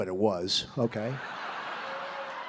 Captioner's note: applause